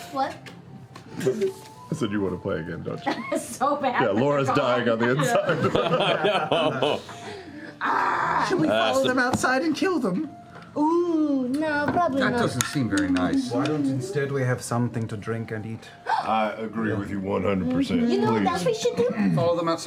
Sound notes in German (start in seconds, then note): 4.8 lachend; 7.7 frustriertes Ächzen